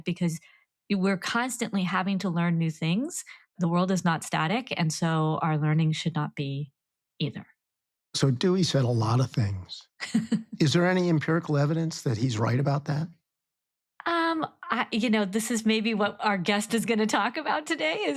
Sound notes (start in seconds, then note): 10.0 chuckles